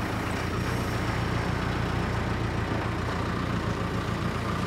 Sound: engine rumbling

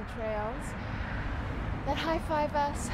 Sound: cars moving

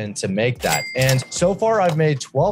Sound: cash register ding

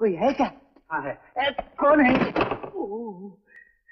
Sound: door slams

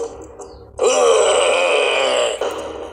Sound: groaning

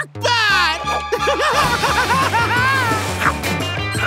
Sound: laughing

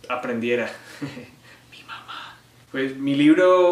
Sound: whispers

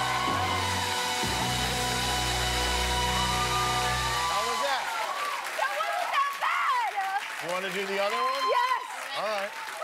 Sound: cheers and applause

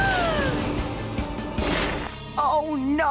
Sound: gasps

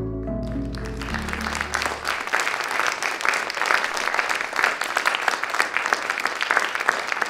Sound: applause from audience

